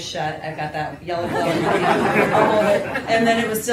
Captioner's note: laughter